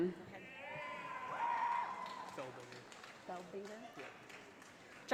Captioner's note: audience applauding